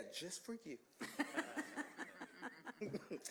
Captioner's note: laughter